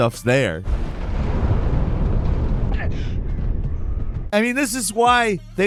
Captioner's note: thunder rumbling